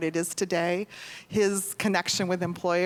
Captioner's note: none